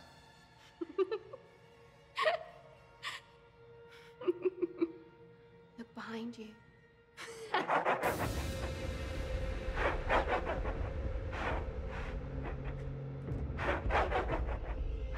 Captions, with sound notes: (Amy giggling) Look behind you. (ominous music) (Amy laughing)